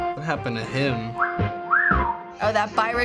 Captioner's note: fox whistle